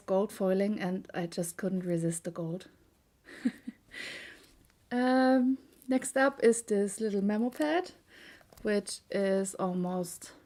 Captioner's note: laugh